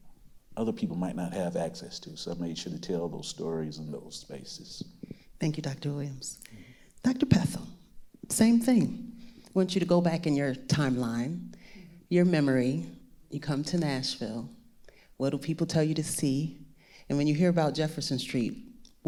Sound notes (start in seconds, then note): none